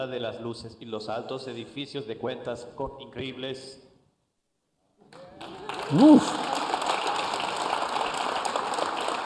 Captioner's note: applause